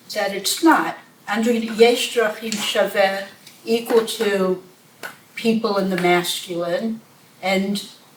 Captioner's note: hebrew